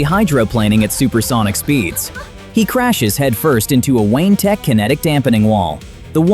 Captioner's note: laughs